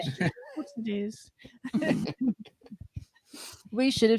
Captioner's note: laughter